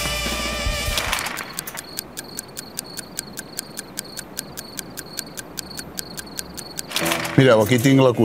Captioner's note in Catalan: tic-tac